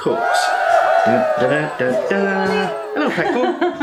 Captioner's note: cheerin